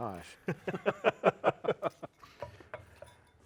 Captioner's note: all laughing